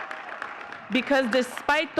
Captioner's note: audience cheering and clapping